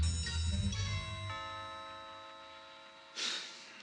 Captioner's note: door bell rings; sighs